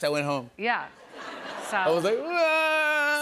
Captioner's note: mock cries